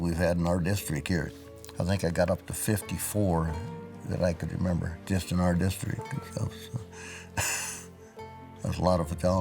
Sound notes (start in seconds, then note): 7.1 chuckle; 7.7 upbeat music